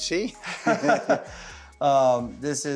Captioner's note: both laughing